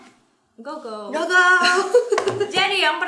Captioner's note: chuckles